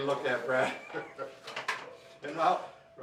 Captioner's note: laughing